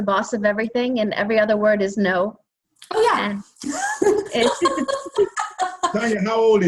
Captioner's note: laughs